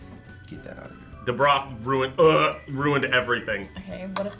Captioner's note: gags